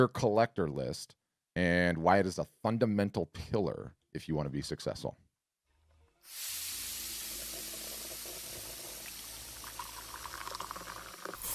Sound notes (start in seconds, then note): 6.8 bubbling